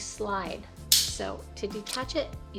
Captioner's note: lanyard clicks